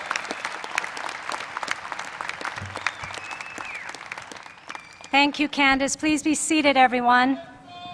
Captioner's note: cheers and applause